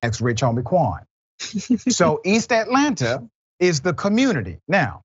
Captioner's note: laugh